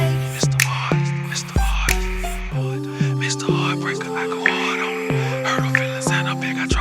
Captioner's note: hip hop music; whispering